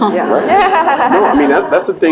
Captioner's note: laugh; laughs